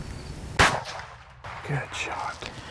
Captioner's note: gun shot fires